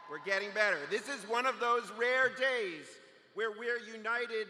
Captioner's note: cheers